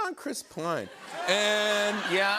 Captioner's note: laughter